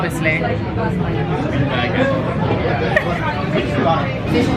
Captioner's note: people chattering